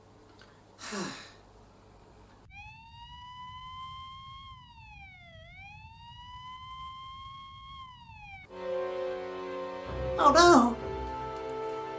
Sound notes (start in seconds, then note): 2.4 sirens on TV